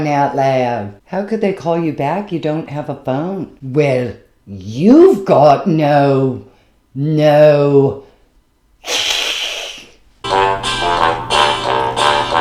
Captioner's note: hiss